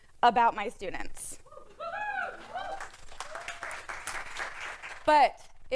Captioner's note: wooing and applause